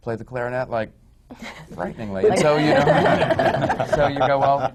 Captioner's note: laughter